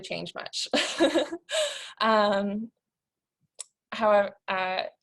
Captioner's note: laughter